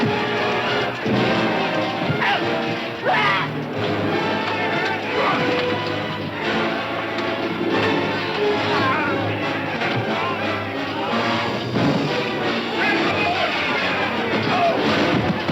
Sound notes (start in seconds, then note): 3.0 man screaming; 4.5 dramatic music continues